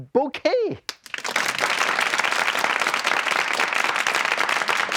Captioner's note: audience applause